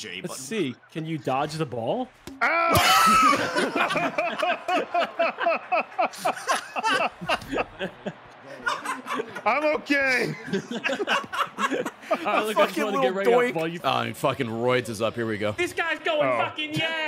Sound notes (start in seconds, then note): 2.4 screams; 2.4 laughs